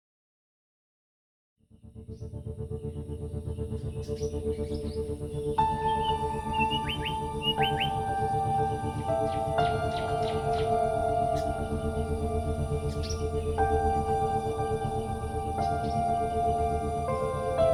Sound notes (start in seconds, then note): 2.0 suspenseful music; 3.9 birds chirping